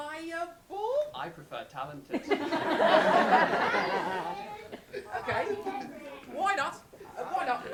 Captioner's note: laughter